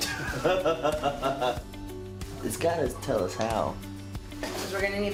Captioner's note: laughter